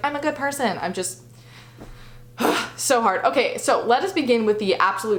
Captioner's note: sighs